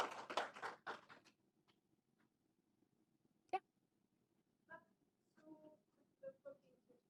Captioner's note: applause